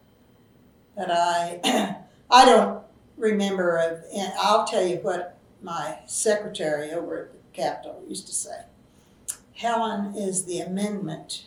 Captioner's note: laughs